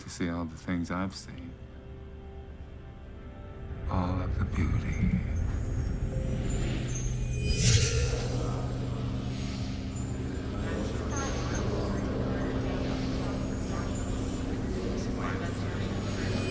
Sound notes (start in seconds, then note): 6.1 high-pitched ringing; 6.1 mellow music; 10.2 people talking